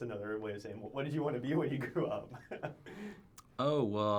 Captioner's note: laughs